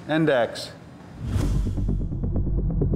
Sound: whooshing; suspenseful music

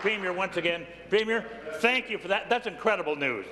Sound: applause

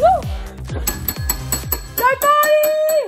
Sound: doorbell chimes

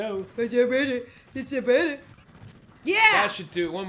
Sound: baby talk

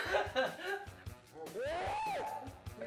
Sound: screams

